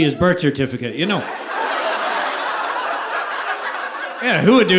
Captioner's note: audience laughing